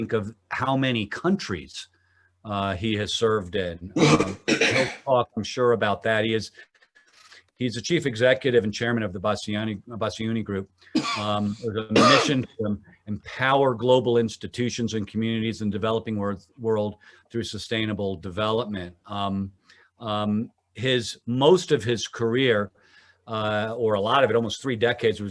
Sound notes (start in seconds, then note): 4.0 clears throat; 10.9 coughing